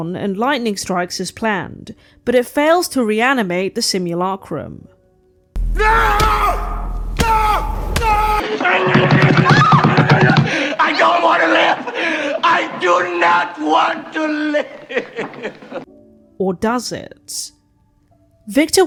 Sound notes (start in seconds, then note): 10.8 Victor yells